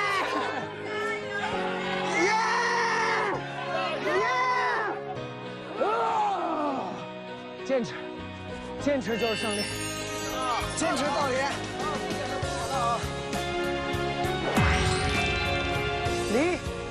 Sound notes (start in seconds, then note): 5.8 gales of roars going up to the sky